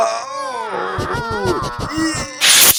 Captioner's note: compulsive sniffling